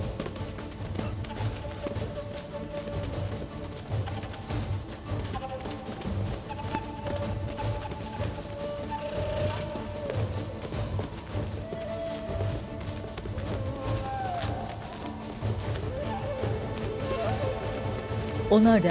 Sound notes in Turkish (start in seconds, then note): 0.8 Müzik - Gerilim; 7.9 Ayak sesleri